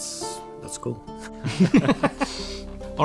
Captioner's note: both laugh